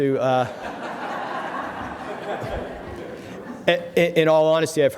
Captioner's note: laughter